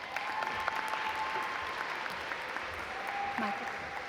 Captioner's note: audience applaud